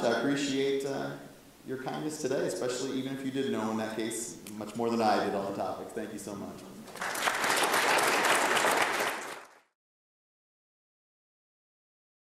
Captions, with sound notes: I appreciate your kindness today, especially even if you didn't own that case much more than I did all the topic. Thank you so much. (audience clapping)